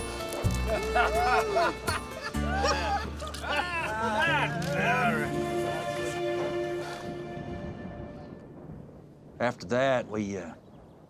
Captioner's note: pouring, laughter